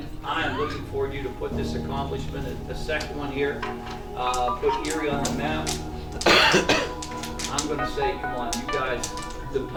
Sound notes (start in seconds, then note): 6.2 player coughs